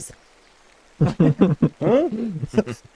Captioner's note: laughter